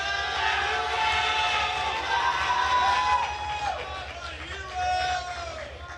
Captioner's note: attendees cheering and applauding